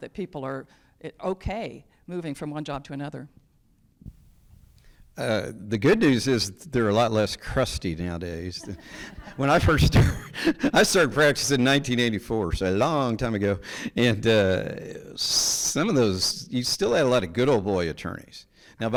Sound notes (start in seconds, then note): 8.6 judge chuckles; 8.6 people laughing